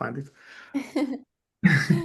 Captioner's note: chuckles